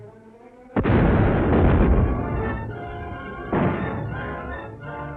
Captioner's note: cannons booming